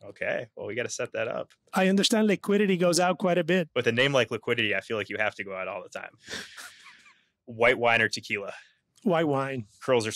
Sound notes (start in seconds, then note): 6.3 laughs